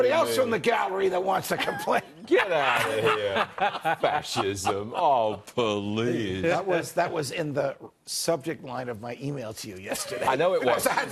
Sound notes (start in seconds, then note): 5.7 laughter